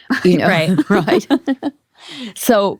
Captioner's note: laughs